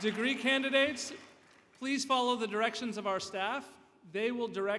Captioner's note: applause